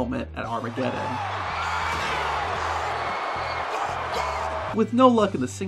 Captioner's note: audience applauding